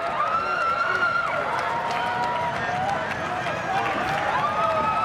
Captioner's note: crowd cheering